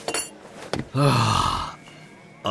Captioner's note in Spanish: Cris suspira